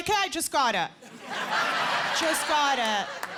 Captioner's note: laughter